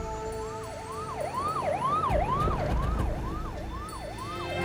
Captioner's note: sirens blaring